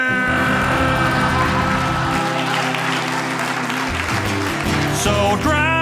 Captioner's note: audience laughing